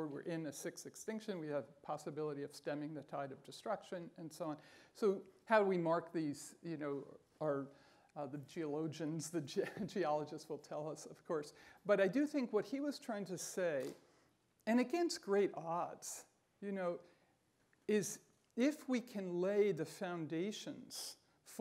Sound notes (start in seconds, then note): 9.2 chuckling